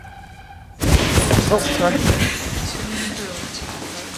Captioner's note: white suit rustles